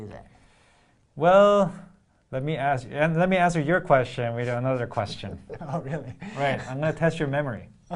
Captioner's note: laugh